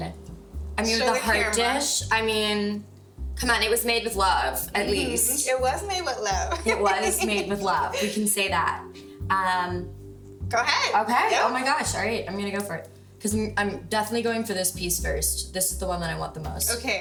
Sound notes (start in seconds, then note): 6.2 giggles